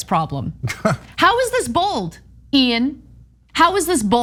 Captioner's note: laugh